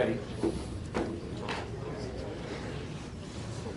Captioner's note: class discusses